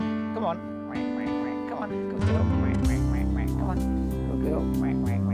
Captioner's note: quacks; quacks